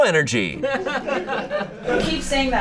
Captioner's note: audience laughing